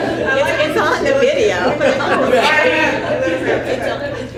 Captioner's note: laughter